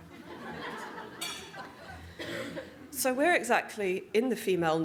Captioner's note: audience Laughter